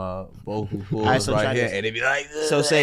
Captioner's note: groans